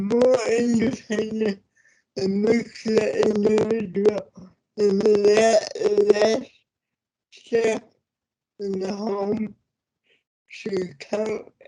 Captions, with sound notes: it makes it in (audio distorts) in the home should count for that.